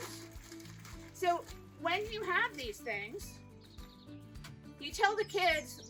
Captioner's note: newspaper crinkling